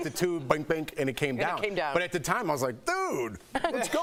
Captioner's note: laughter